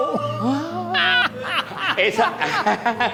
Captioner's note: laughs